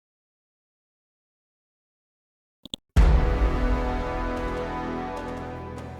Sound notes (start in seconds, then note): 2.6 mouse clicks; 3.0 dramatic chord